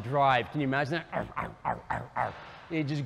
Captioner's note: imitates car noise